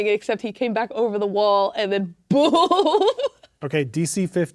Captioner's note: laughing